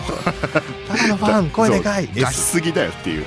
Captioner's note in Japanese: 笑い